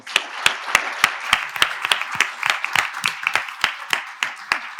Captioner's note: attendees applauding